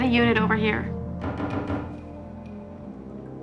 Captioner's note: knocking